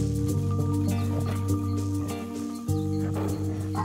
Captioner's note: snarling and growling nearby